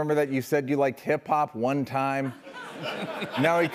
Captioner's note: laughter